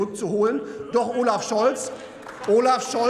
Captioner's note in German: Beifall bei der CDU/CSU und der AfD